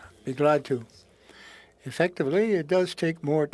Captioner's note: speaking French